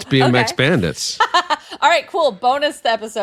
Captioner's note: laughing